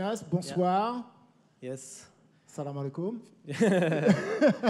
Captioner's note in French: rires